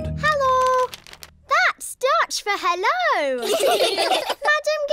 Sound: laughter

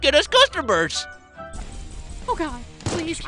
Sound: gun shots

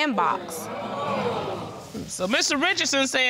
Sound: audience groaning

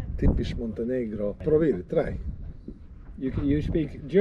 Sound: speaking foreign language

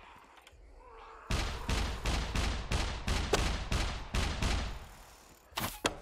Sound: mech Gunshots

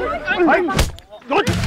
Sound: punching

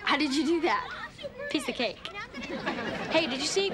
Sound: audience laughing

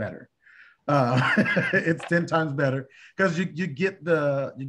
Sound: laughter

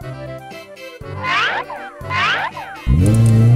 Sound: ascending slide whistling; engine revving

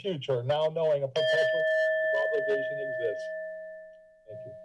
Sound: bell chimes

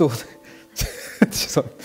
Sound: laughs

